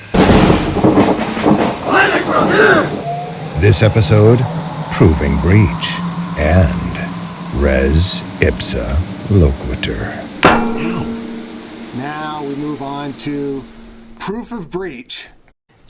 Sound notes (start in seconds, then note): 2.0 thunder crashes; 3.6 drum, voices shouting; 10.4 metallic thud